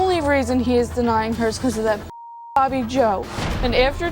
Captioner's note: beep